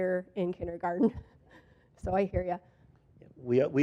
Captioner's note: laughs